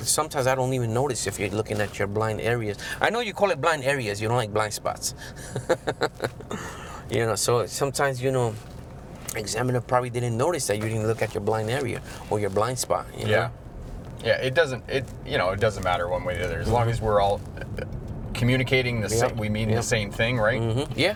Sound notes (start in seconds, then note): 5.3 laughs